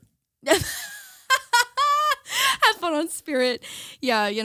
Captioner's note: laughing